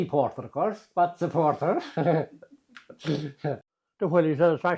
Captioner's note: giggle